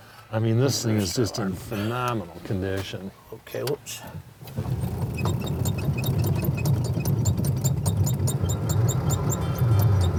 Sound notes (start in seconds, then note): 4.6 car engine screeching